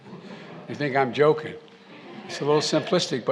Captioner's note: laughter